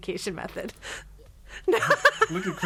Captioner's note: all laughing; laughs